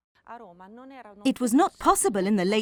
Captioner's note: speaking in foreign language